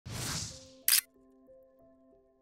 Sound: camera shutters

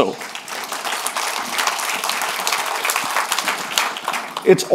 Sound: audience applauding

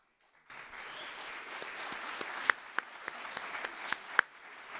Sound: audience applauding

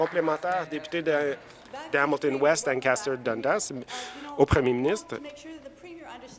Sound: applause

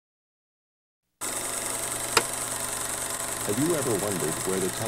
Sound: projector clicking

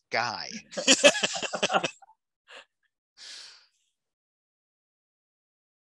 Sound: laughing

